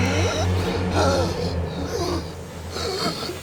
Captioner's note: gasping